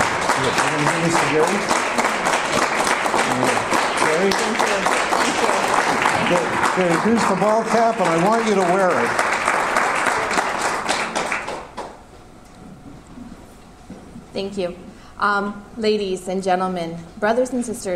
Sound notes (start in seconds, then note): 10.8 applause ends